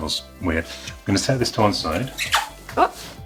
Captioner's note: box squeaking